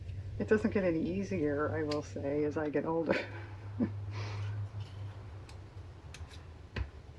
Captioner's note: laughs